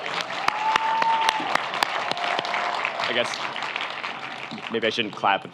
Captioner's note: audience cheers; audience applauds